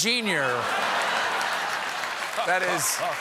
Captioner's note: applause; laughter